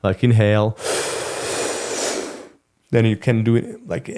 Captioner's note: breathing in and out